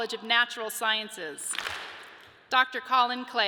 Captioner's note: audience claps